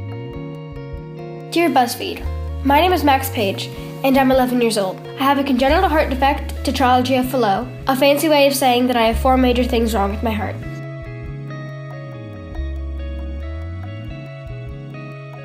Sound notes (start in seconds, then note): 1.6 voiceover